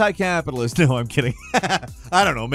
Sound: Falcon laughs

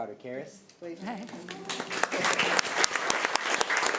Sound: applause

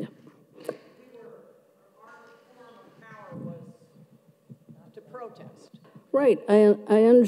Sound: voice faded off microphone

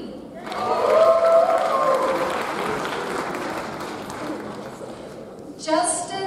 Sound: audience cheers; audience applauds

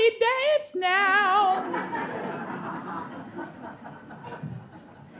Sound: singing; audience laughing

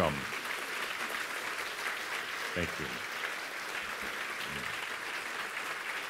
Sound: audience applause

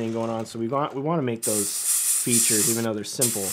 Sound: hissing

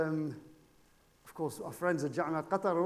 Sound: speaking foreign language

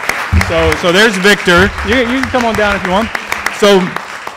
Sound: applause

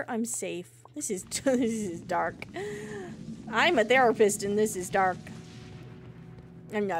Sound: laughs

